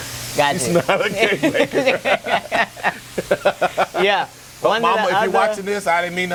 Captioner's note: laughs